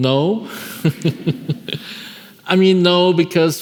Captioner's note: laughing